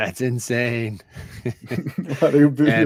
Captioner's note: laughter